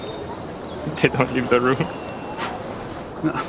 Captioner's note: chuckling